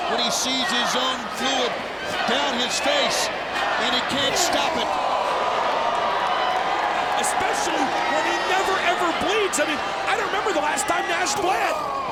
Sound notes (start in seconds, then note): 5.4 crowd exclaiming